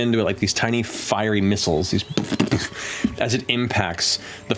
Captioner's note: impacts